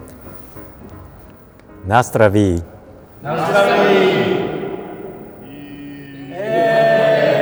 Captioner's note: cheers!